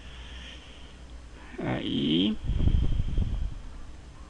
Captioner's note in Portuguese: sopro no microfone